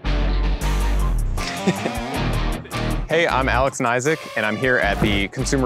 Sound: laughs

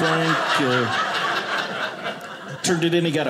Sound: audience laughing

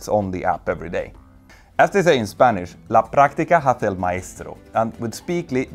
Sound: speaks Spanish

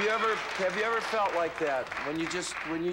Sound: applause

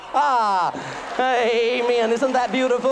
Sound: applause

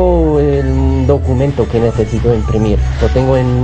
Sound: speaking Spanish

